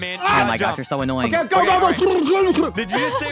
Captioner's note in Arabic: همهمات فكاهية